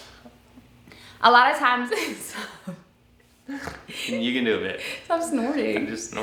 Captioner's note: laughs